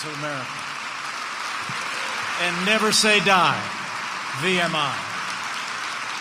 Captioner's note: applause